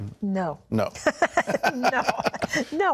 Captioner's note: laughing